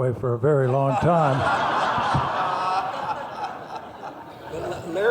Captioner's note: laughing